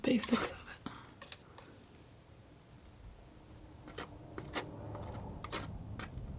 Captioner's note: scratching